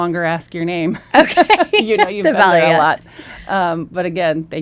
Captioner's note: laughs